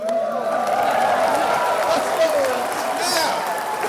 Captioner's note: audience cheering